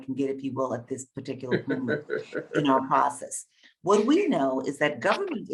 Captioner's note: Bob laughing